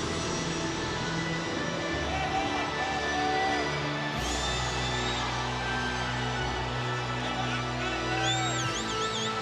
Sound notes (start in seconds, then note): 4.1 fan whistling